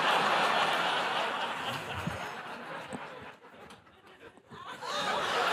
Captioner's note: laughter